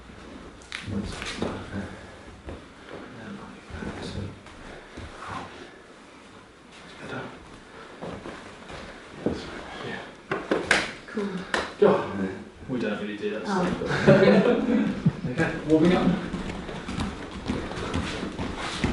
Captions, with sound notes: And then like that. Cool. - We don’t really do that. [Laughs] - Oh. OK, warming up.